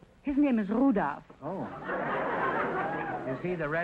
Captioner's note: audience laughter